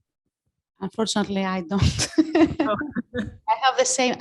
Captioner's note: laughs